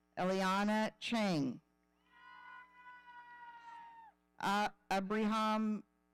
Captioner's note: audience cheering